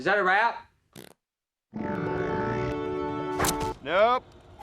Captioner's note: fart